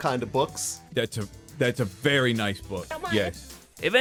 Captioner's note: caffeinated noises